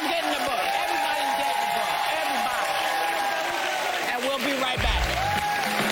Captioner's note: cheers